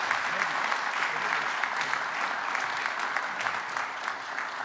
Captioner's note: applause